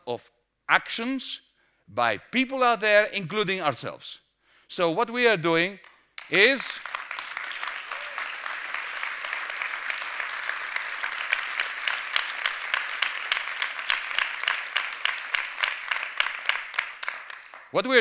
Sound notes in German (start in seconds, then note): 7.8 Applaus